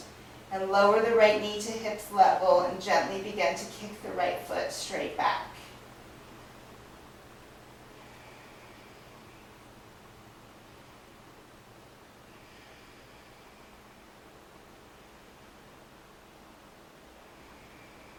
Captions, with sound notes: And lower the right knee to hips-level and gently begin to kick the right foot straight back. (breathing sounds)